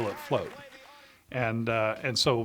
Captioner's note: audience cheering